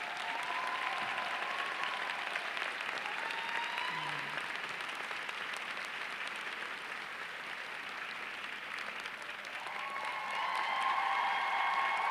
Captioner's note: applause